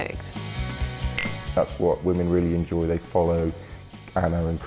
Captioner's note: clinks